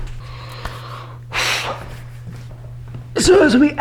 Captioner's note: wheww